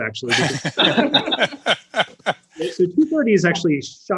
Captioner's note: all laughing